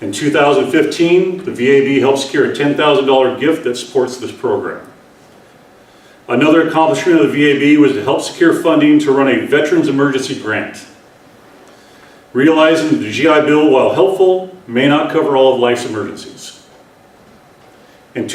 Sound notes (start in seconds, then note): none